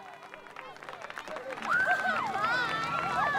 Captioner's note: cheering